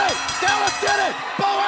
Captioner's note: bell ringing